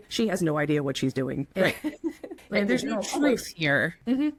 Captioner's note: laughs